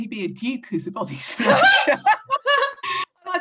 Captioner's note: laughs